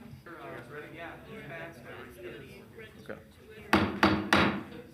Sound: faint voices chattering; gavel pounds

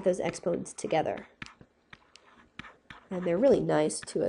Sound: scribbling

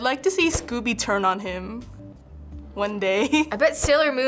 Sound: chuckles

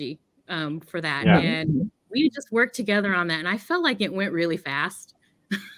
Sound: laughs

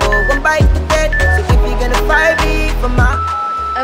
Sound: timer beeps

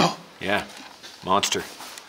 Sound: gasping

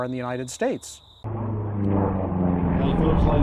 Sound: plane engine roars

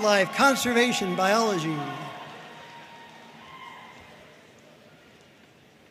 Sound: audience cheering and applauding

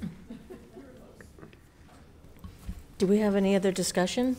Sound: people chuckle

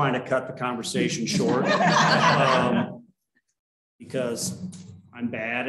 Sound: laughter

